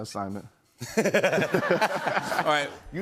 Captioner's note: laughter